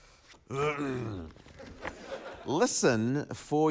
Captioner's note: clears throat weakly; laughter